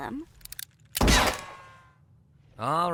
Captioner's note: bang!